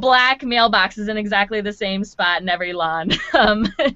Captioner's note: laughing